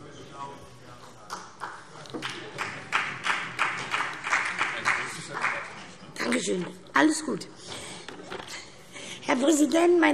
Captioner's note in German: Vereinzelter Beifall